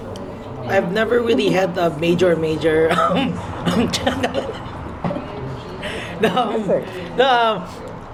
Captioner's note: laughter